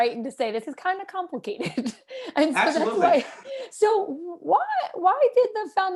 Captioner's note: laughter